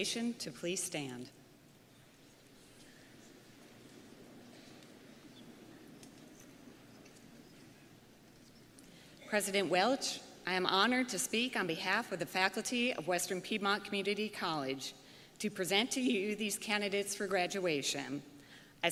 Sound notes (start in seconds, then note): none